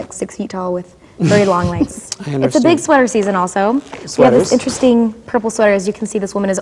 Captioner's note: chuckling